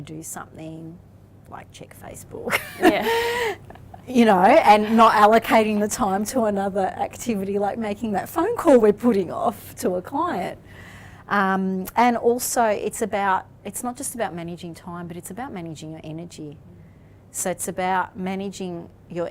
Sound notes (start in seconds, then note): 2.6 laughs